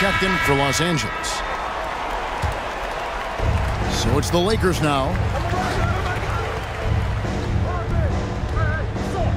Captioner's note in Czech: Potlesk